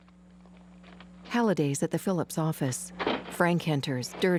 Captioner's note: footsteps approaching